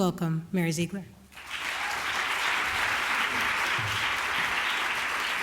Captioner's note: applause